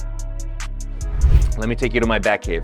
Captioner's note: transition effect